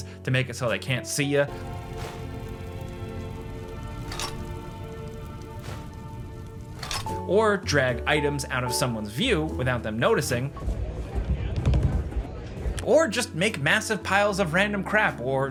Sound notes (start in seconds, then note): 3.2 gentle music; 11.3 people chattering